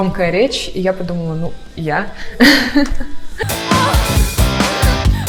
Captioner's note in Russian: смех